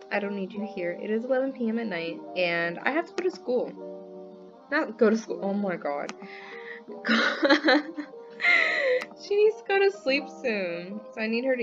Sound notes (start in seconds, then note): 7.0 laughing